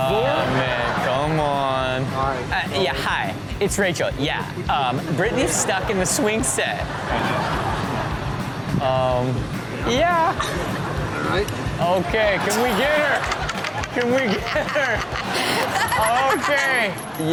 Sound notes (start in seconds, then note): 6.7 crowd laughs; 14.6 Chanel laughs